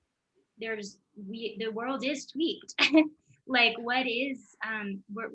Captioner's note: chuckles